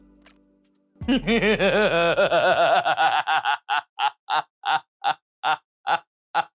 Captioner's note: maniacal laughter